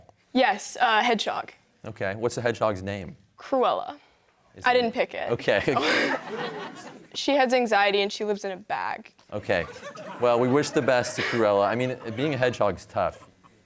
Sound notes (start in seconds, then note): 5.7 laughs; 5.7 audience laughs